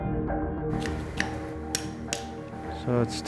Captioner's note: tool hammering